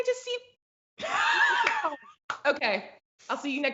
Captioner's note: laughs